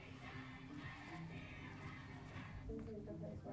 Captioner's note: students chanting